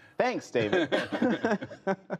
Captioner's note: laughter